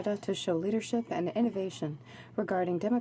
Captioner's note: speaking French